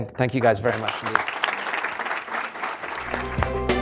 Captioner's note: applause